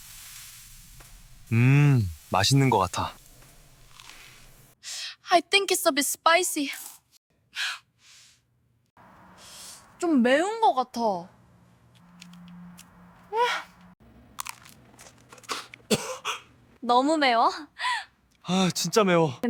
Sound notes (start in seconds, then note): 14.3 crunch-biting sound; 15.8 coughing sound or Choking sound